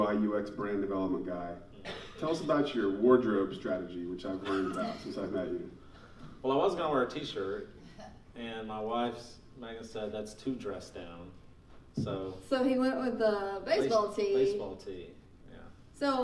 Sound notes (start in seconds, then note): 4.5 laughing